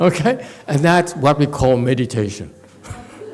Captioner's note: laughs